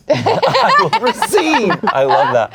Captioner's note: laughs